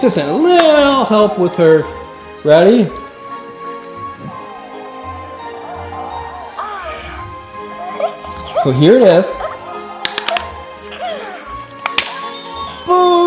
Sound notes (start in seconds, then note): 3.3 mellow music; 4.2 Hatchimals chattering; 10.0 egg cracking; 11.7 mellow music